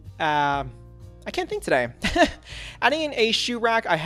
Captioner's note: laughs